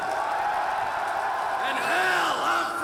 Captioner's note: crowd continues cheering